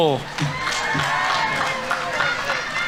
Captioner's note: audience members cheering; audience applauding